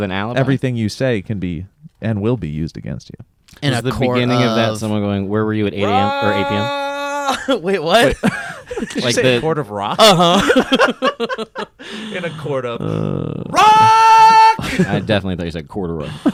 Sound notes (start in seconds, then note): 5.8 yells; 8.6 laughts; 9.9 laughter